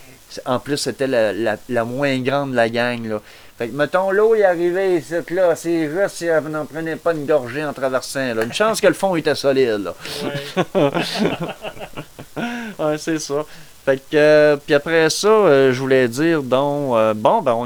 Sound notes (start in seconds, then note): 9.7 laugh